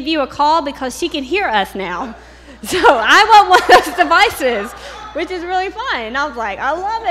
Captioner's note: laughter